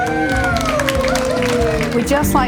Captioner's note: people cheer